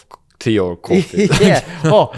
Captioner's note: laughs